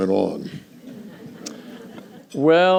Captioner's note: laughter